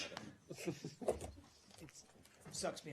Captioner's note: laughter